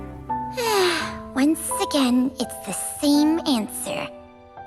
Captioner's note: sigh